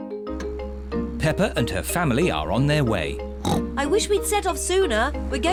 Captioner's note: snorts